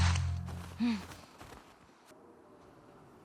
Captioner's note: game sounds